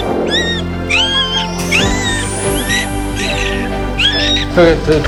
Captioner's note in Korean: 수술방에 울리는 새생명들의 울음소리